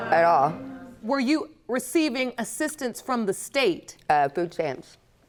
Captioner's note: none